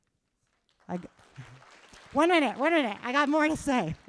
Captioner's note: applause